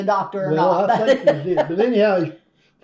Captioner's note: laughs